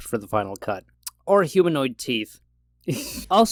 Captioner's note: laughs